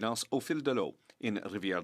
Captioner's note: speaking French